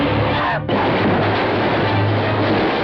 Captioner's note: crashing noise